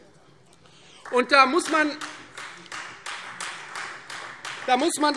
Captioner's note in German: Beifall Freie Demokraten